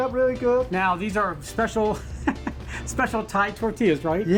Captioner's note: chuckles